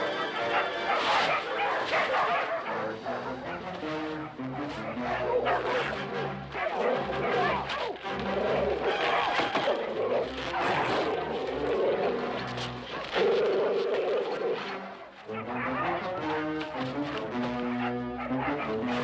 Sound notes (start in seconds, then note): 4.9 dog growling; 8.3 ripping